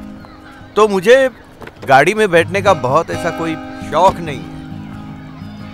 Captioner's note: Car door closes